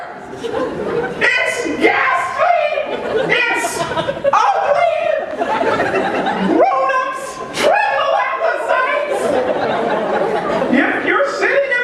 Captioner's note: laughter